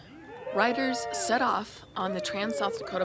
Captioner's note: crowd cheers